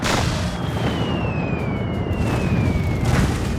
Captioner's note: bombs explode